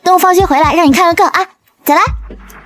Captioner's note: chuckles